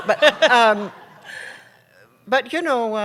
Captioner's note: laughter